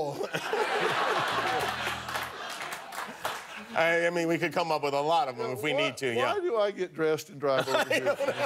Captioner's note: applause